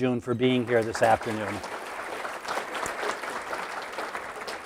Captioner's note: applause